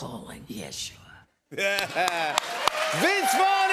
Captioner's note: laughter